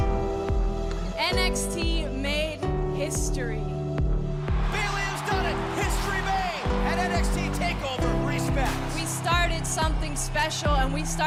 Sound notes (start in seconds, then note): 4.4 cheers & applause